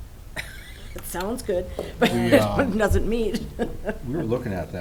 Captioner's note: laughs